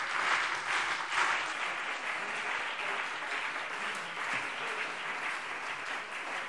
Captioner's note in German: Anhaltender Beifall BÜNDNIS 90/DIE GRÜNEN und CDU